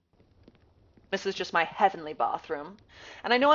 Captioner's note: british accent